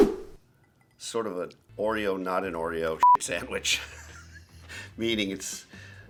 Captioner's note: air whooshing; beep; laughs